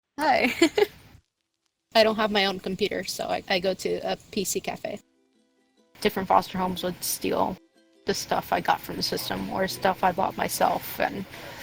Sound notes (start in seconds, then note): 0.4 laugh